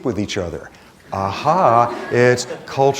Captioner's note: laughter